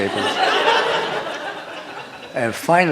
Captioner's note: laughter